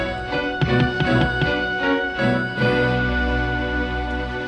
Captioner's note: flashlight taps